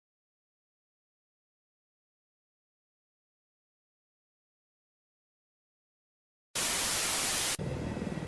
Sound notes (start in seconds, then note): 6.5 cshhhhhzzzzzz